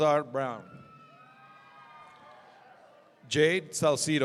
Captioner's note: audience cheering